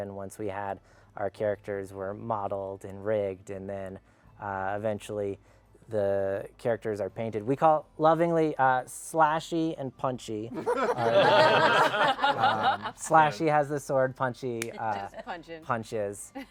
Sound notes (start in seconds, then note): 10.5 laughter